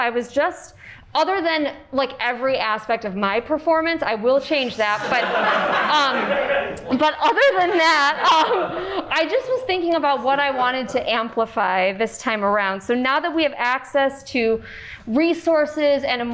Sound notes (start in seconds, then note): 4.6 cast and crew laugh